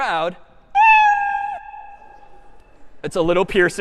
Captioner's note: meow